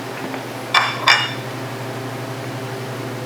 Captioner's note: plate clinking